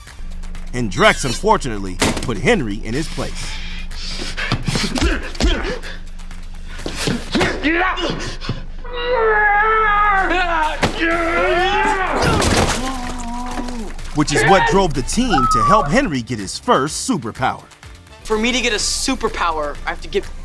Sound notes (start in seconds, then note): 4.6 grunting; 9.1 groaning